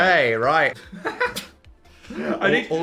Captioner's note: laughs